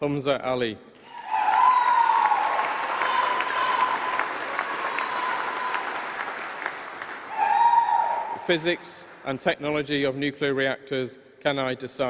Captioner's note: applause